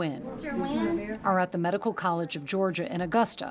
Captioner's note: overlapping chattering